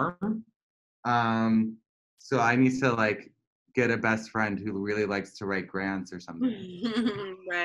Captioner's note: laughter